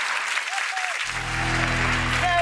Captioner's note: audience clapping